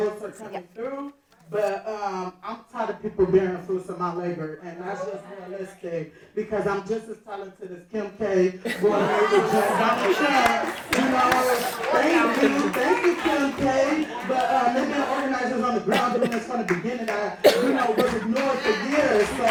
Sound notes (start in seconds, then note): 8.2 audience laughing; 10.8 audience applauding